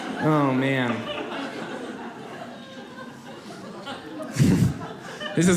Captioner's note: audience laughs